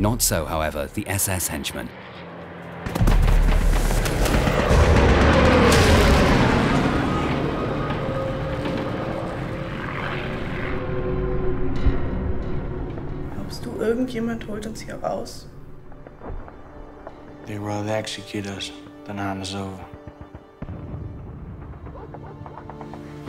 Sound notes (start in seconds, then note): 6.8 explosions pop